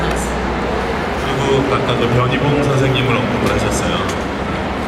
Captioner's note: speaking Korean